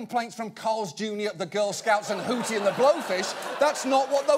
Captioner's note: audience laughing